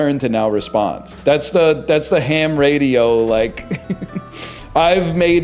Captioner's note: chuckles